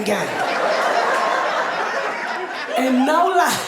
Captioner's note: audience laughing